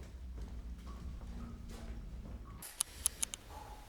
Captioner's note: dripping water